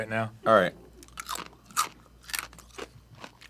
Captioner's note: tough crunch